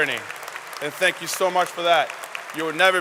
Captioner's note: applause